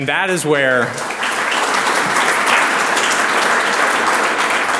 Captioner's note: audience applauds